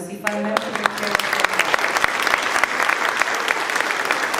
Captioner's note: applause